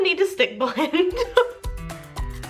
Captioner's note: laughs; upbeat music